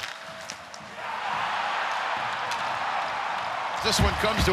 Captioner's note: crowd cheering